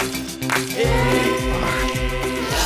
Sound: clapping

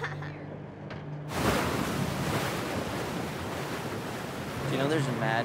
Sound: waves crashing

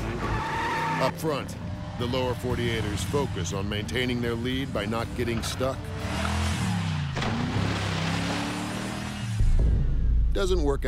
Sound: engine roars

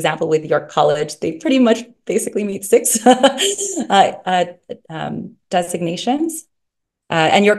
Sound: laughs

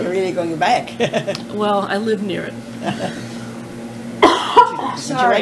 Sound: coughing; laughter; coughing

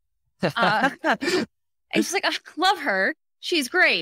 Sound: laughs

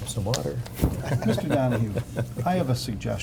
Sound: board members chuckle

